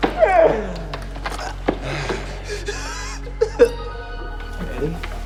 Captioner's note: ominous ambient music; sobbing